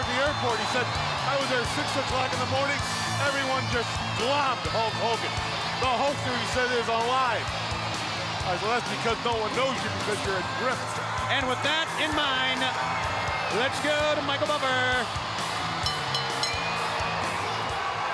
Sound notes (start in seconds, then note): 15.7 bell ringing; 16.7 crowd cheering